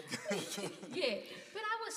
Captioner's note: participants laugh